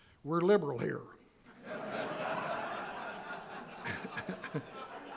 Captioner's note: audience laughing; laughs